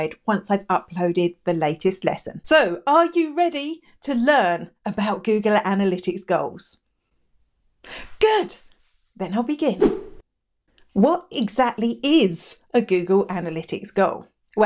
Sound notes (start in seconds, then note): 9.8 air whooshing